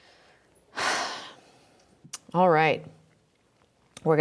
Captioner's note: deeply sighs